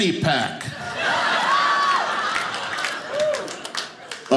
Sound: audience laughing

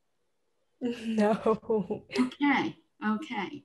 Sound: chuckles

